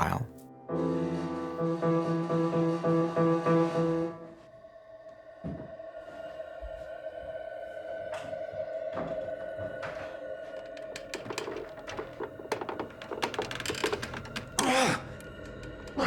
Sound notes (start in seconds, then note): 10.6 creaking